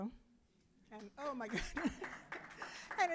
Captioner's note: audience applauding